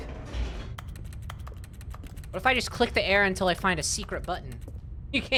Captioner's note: rapid clicking